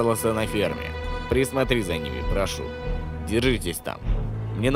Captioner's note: on phone